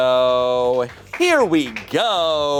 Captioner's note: crew applauds